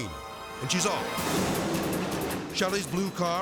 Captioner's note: dramatic music; dragsters revving